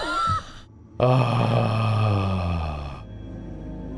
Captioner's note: relieved sigh